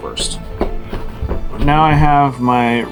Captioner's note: footsteps